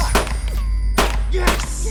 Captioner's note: gun firing